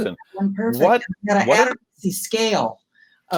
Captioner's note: mumbles